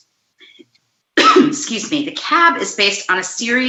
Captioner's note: coughs